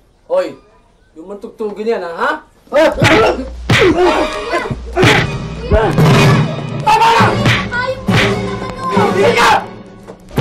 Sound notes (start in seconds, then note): 3.8 grunting, groaning